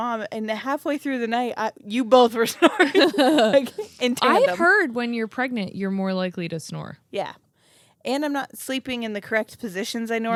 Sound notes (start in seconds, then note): 2.6 laugh